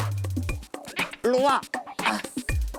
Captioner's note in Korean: 낑낑